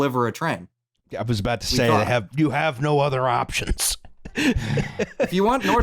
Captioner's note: laughs